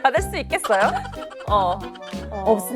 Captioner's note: bursting into huge laughter